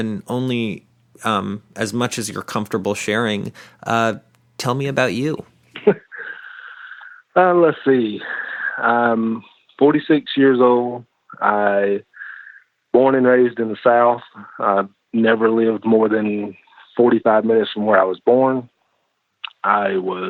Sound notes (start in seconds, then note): 5.7 chuckles